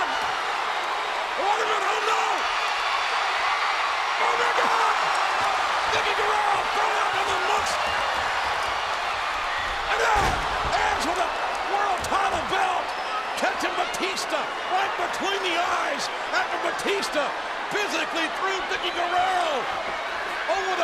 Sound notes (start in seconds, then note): 5.3 audience cheers